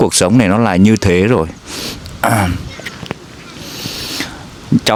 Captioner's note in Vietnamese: khịt mũi